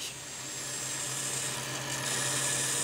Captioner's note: machine noise